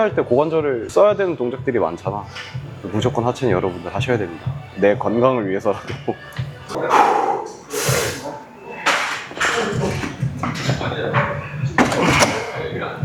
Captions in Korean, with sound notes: 할 때 고관절을 써야 되는 동작들이 많잖아. 무조건 하체는 여러분들 하셔야 됩니다. 내 건강을 위해서라도 [콧방귀]